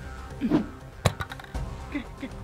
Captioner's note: grenade hits the floor